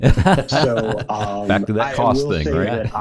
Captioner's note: hosts laughing